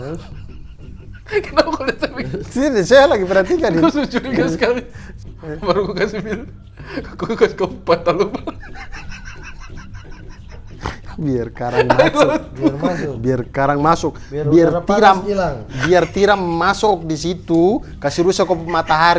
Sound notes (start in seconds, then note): 8.9 laughing